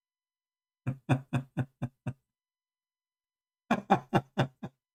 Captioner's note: Ketawa